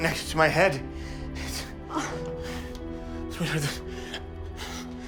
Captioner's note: stuttering